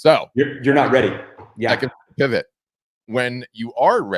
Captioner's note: static